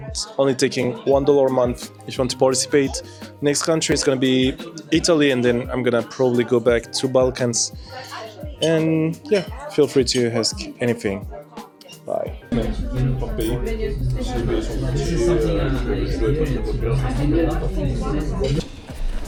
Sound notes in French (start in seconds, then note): 13.7 Parle en langue étrangère